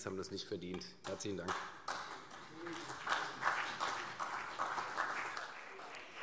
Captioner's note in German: Beifall CDU und BÜNDNIS 90/DIE GRÜNEN